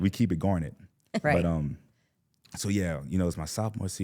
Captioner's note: laughs